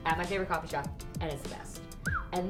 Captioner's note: whistles